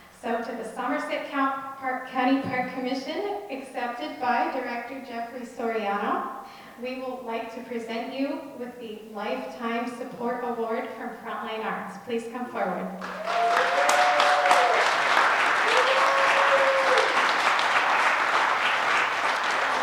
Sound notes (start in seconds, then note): 15.0 applause